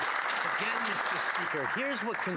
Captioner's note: some Applause